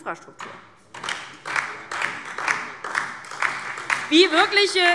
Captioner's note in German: Beifall DIE LINKE und vereinzelt Freie Demokraten